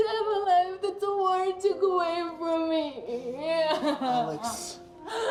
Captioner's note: sobbing